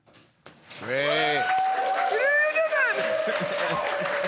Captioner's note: applause